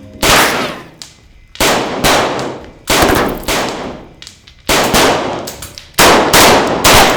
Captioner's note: bullets pinging; guns blasting